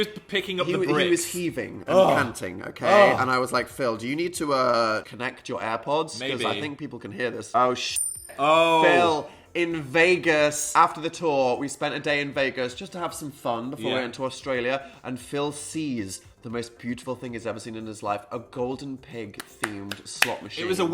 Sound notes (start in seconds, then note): 8.0 clinking